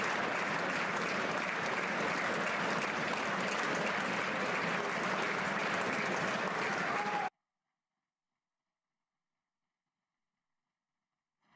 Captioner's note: applause